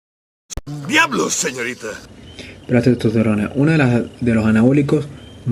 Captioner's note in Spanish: sarcasmo